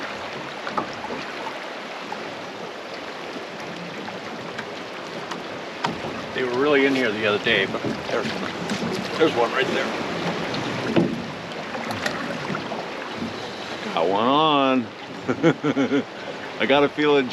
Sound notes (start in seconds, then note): 0.0 water flowing; 11.2 water flowing; 15.2 chuckling